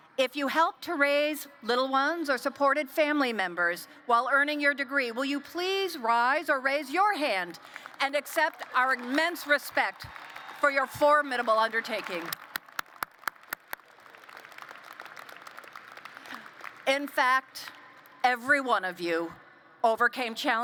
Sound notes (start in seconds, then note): 12.5 applause